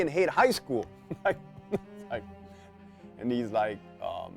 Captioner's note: chuckles